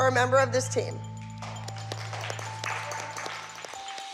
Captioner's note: applause